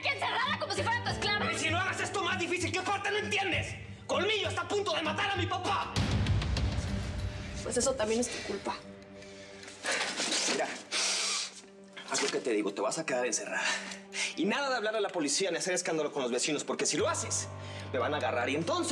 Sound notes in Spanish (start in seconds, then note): 9.2 exhala